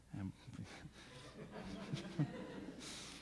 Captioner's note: laughing